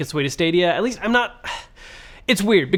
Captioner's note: sighs